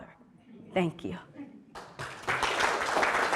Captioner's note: audience chuckling; audience applauding